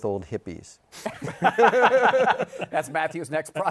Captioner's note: laughter